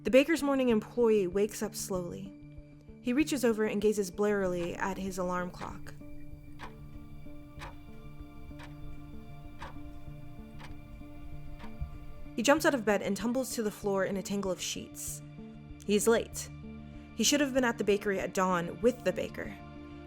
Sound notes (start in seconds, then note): 6.6 sound of ticking clock